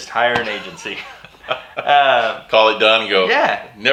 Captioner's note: laughing